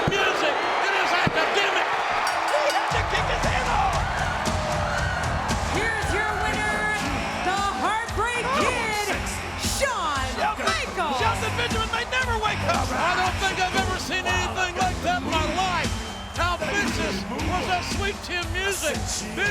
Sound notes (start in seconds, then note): 2.1 bell rings; 3.1 audience cheering; 3.1 upbeat music